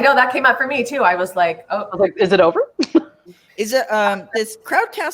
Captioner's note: chuckles